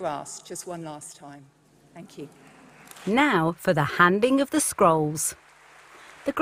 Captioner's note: applause